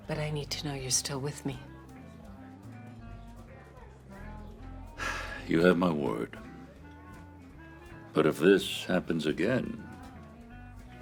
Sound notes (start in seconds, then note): 4.9 sighs